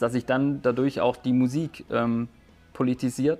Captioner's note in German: none